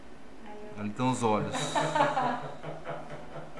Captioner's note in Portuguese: risos